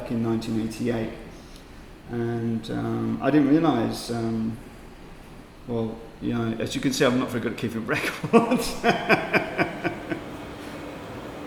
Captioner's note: laughter